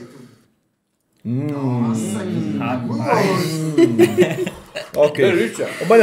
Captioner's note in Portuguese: risos